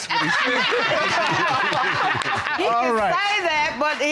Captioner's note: all laughing